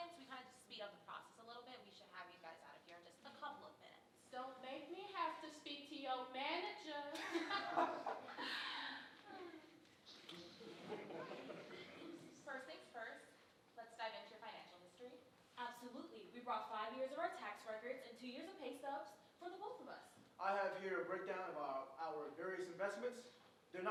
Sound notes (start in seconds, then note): 7.5 group chuckling; 10.3 audience chuckling